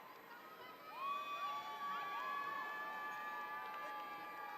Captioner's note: audience cheering